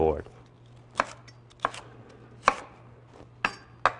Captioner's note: crunching sound of knife slicing bell pepper